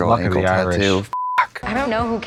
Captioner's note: beep